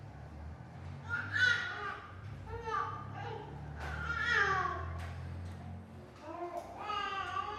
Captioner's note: baby cries